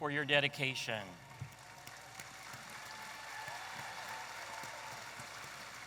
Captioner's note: audience applauding